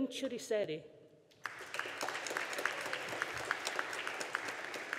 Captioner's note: audience applauding